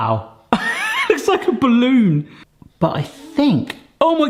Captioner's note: laughs